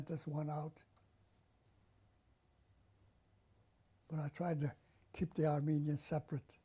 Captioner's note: pauses for 3 seconds